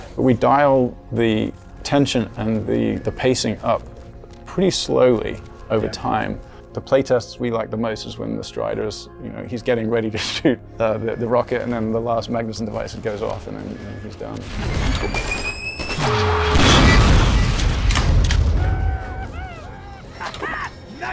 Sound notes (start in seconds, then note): 15.8 sci-fi whirring; 15.9 loud explosion; 18.6 people celebrating